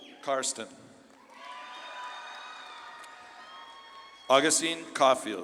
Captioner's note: audience claps and cheers